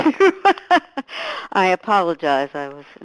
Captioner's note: chuckles